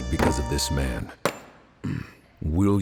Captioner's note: clink